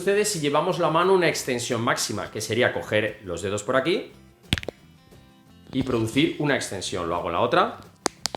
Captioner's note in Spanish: crack